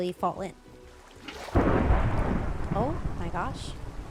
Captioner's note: thunder